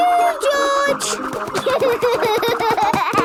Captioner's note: giggling; snorting